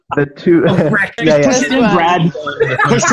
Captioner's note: laughing; laughs; laughing